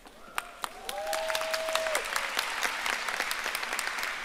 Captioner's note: audience applauding